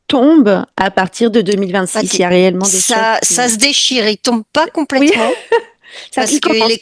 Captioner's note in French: rires